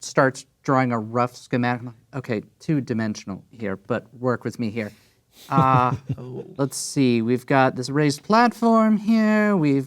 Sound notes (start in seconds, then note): 5.4 chuckling